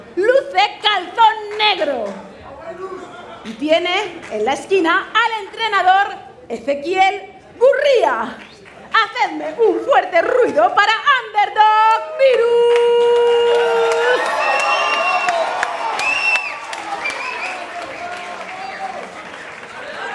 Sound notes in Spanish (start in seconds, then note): 13.4 Gritos